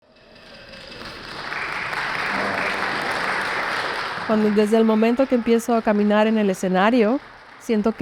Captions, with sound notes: [applause] - Cuando desde el momento que epmiezo a caminar en el senario,